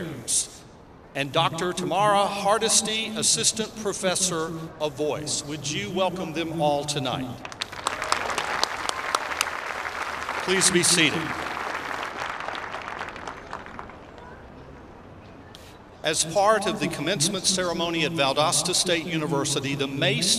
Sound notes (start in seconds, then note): 8.7 applause